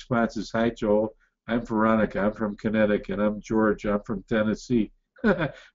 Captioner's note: laughs